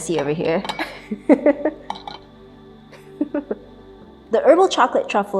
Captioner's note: chuckling